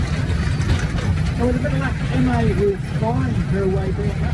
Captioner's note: railway noises and background commentary